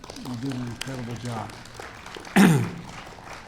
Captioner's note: applause